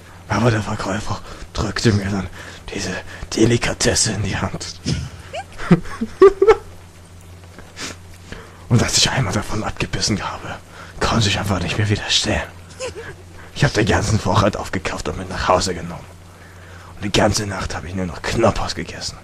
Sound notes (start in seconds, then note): 4.8 laughing